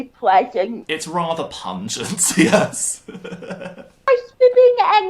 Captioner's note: laughter